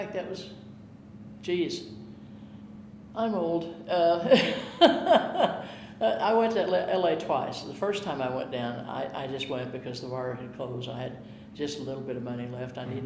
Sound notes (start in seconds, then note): 4.2 chuckling